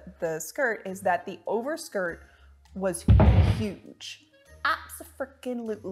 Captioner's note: crashing